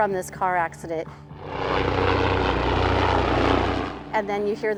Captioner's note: helicopter whirring